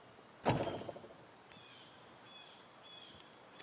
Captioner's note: door closes